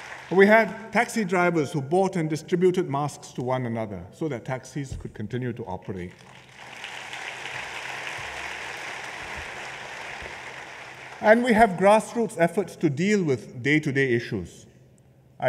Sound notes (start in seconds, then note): 6.1 applause